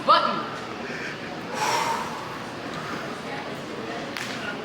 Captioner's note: people exhale; people chattering